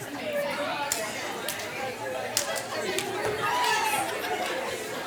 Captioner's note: participants conversing